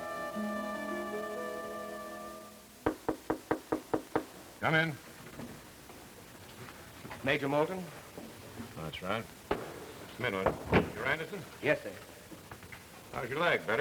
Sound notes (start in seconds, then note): 2.8 knocking on door